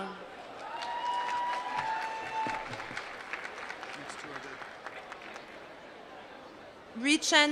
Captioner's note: applause